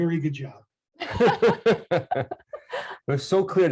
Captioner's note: laughing